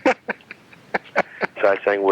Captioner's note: laughing